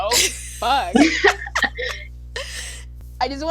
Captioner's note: continuous laughter